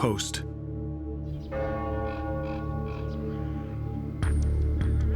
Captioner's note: church bell tolling